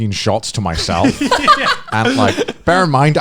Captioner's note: laughing